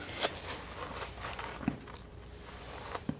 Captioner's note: scratching